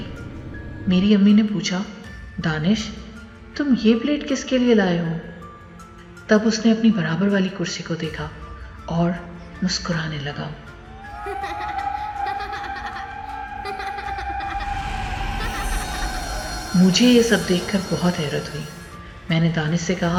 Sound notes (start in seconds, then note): 11.0 child Laughing